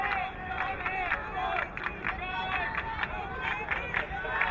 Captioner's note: crowd clapping